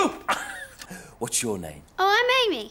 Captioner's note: laughs